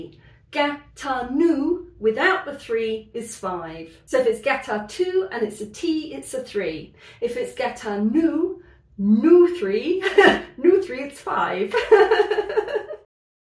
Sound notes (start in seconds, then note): 11.8 laughing